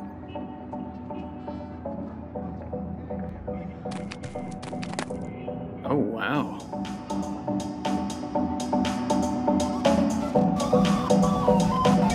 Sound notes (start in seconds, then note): 0.2 mellow music; 4.4 quiet footsteps; 7.7 upbeat music